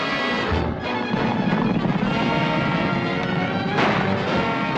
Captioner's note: gunshots and horses galloping